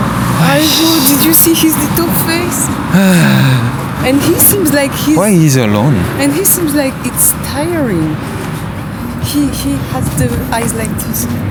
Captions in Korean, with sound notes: (탄식) 귀여운 얼굴 봤어? (한숨) 왜 혼자 있는거지 좀 피곤해보이는데 그의 눈이 약간 이랬어